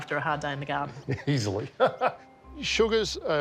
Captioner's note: laughs